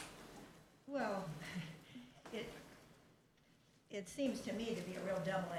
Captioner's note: chuckles